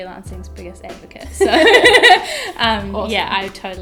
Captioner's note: laughter